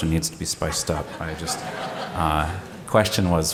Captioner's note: laughter